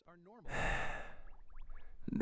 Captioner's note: sighs